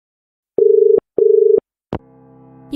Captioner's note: dial tone